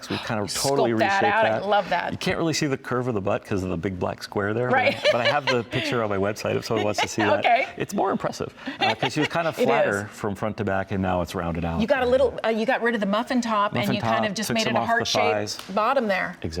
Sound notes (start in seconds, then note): 4.8 laughter